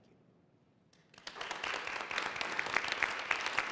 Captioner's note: applause